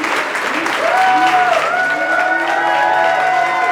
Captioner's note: cheering